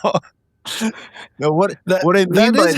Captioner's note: laughing